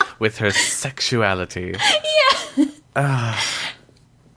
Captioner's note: laughs